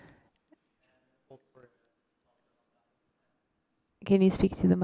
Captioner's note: speaks off microphone